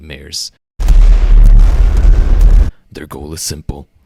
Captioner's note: explosion sound